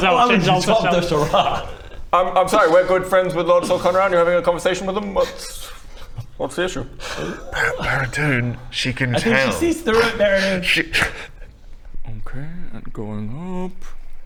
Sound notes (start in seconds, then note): 11.1 cracks up